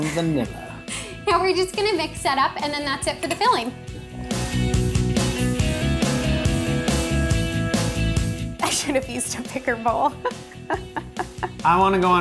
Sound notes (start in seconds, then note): 2.2 laughing